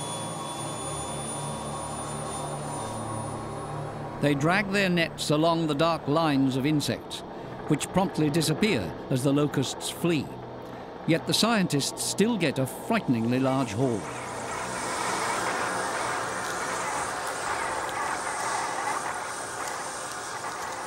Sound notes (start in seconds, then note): 0.3 helicopter blades spin faster; 3.2 helicopter leaves; 13.9 locusts hissing; 16.8 crunch of locust bodies